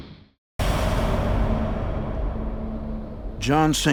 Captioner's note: ominous music; thunder crashing